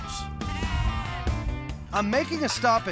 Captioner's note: sheep bleating